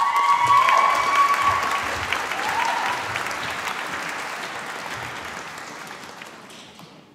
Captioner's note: applause